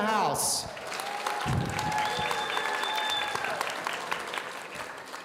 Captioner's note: audience applauding